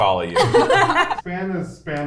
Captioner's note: all laugh